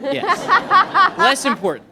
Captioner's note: laughter